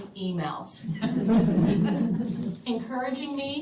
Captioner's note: laughter